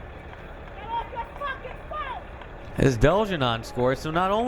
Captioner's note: crowd member yelling